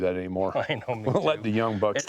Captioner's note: laughs